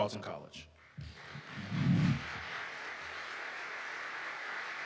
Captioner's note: audience applauding